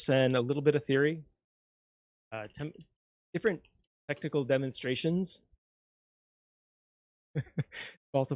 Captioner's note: laughs